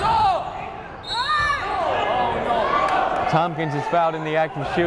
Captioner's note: whistle blowing